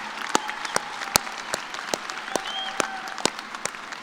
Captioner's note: cheers and applause